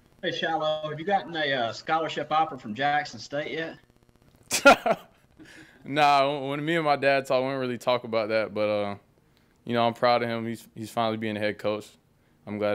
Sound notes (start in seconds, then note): 4.5 Shilo laughs